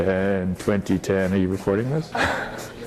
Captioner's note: laugh